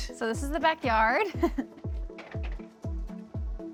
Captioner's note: chuckles